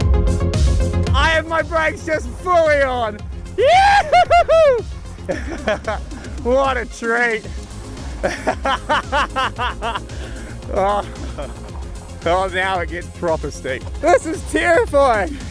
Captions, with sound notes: I have my breaks just fully on! (hollering gleefully) What a treat. (laughing) Oh, now it gets proper steep. This is terrifying!